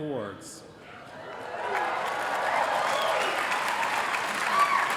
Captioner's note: applause